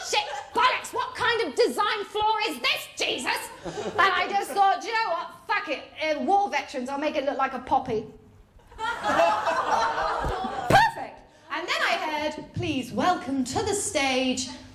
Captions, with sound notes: Shit, bollocks, what kind of design flaw is this, Jesus? And I just thought, you know what, fuck it, war veterans... I’ll make it look like a poppy. [LAUGHTER] Perfect. And then I heard, ‘Please welcome to the stage…’